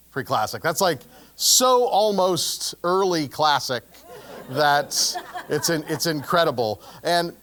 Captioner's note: laugh